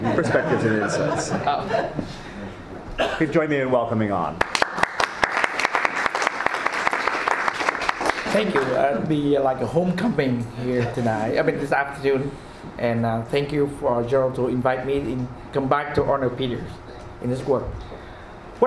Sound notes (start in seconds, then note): 0.0 many laughing; 4.4 all applauding